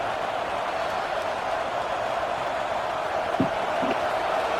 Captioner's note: crowd cheering